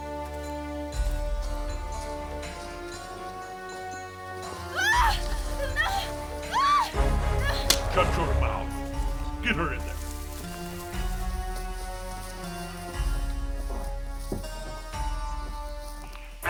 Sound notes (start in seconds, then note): 6.4 screaming